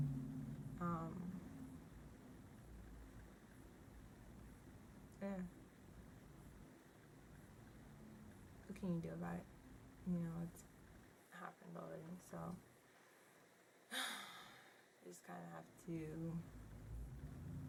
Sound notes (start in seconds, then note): 13.9 deep sigh